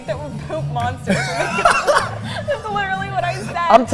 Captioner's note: both laughing